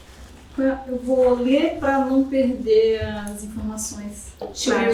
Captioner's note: speaking portuguese